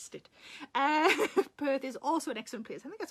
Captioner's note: Sarah laughs